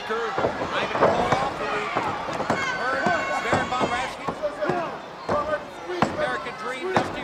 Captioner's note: announcer speaking faintly off mic